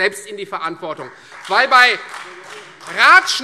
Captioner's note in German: Beifall Freie Demokraten